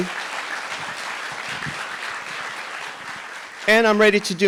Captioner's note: audience applauding